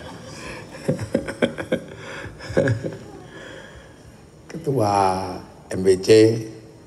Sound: laughs

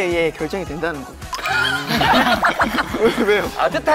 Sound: huh? Laughs

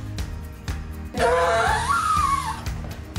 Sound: scream

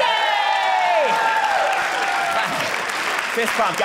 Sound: audience cheering

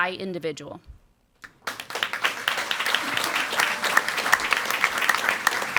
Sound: audience applauding

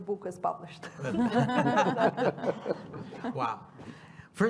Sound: laughter

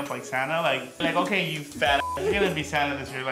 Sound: beep

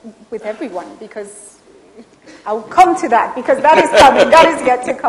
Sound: Sadhguru laughs

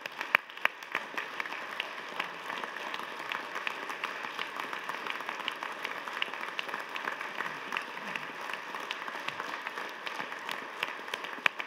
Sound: applause

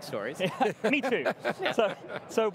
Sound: laughs

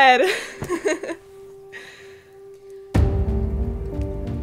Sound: giggles

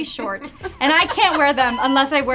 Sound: laughs

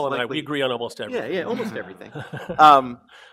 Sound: audience chuckles

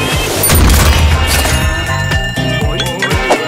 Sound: explosion; alarm ringing

